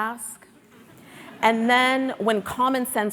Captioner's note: audience laughing